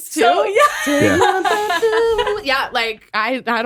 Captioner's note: everyone laughs